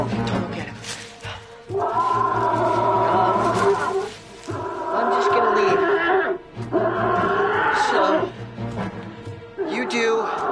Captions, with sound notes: Don't look at him. (bear screams) I'm just gonna leave. So you do